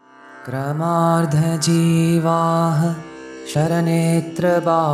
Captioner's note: man chants in Sanskrit